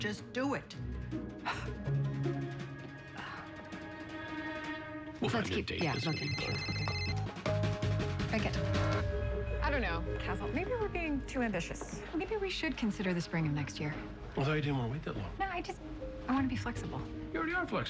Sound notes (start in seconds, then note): 0.7 exhales sharply; 5.8 cell phone rings and beeps